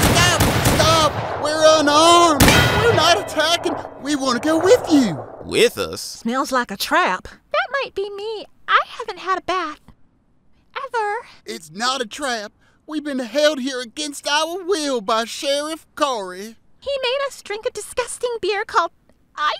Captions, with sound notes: - Stop, stop, we're unarmed! (gunshots) (bell tolls) We're not attacking. We wanna go with you. - "With us?" - Smells like a trap. That might be me. I haven't had a bath ever. - It's not a trap. We've been held here against our will by Sheriff Corey. - He made us drink a disgusting beer called IPA.